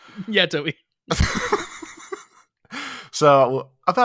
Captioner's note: laughs